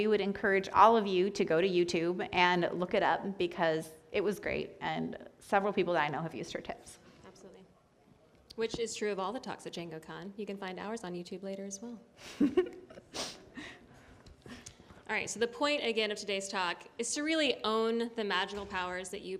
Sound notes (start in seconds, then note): 12.2 laughter